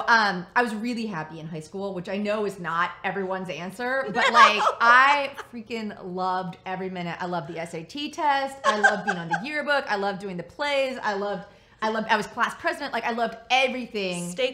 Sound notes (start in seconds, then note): 4.0 laughs